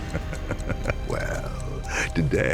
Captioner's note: eerie whistle; creepy laugh